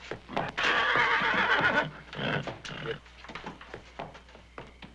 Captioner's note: horse clopping; horse neighing